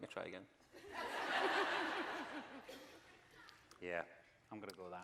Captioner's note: audience laughing